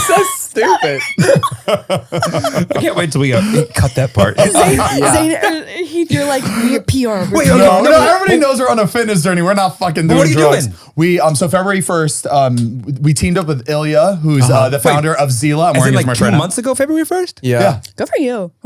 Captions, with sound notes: - So stupid. (all laughing) - I can't wait till we go. Cut that part. - Zane, you do like PR. - Wait a little. Everybody knows we're on a fitness journey. We're not fucking doing drugs. - What are you doing? - So, February 1st, we teamed up with Ilia who's the founder of Zilla. - Maureen is trainer. - Is it like two months ago, February 1st? - Yeah. - Yeah.